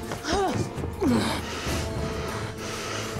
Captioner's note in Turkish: Nefes sesi